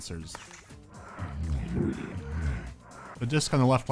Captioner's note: huffing and eleepod mumbling